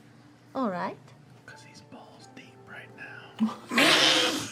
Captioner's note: whispering; laughter